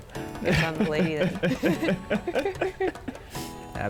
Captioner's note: both laugh